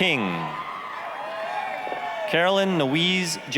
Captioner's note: applause, cheering